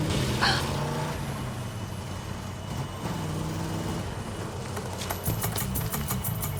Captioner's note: engine running